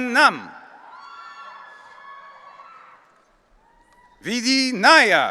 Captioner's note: audience cheering